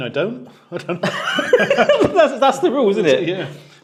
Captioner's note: both laugh